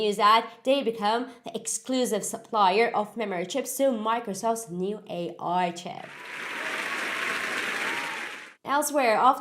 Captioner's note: cheery applause